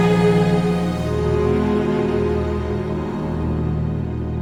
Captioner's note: slavering